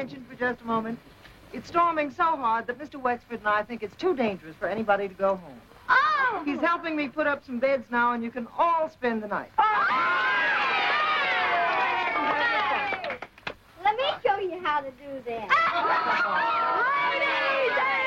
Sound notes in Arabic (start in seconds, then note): 6.2 أطفال يصفقون; 6.2 أطفال يهتفون